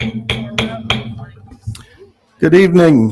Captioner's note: gavel taps